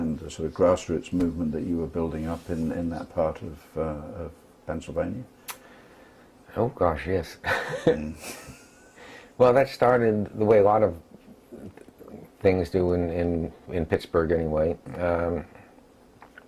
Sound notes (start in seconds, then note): 7.5 laugh